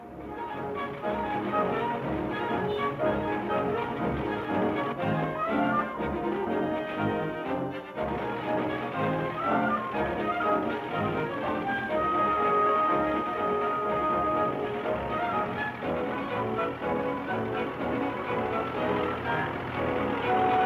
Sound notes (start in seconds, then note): 0.1 pleasant orchestral music; 9.0 truck engines chugging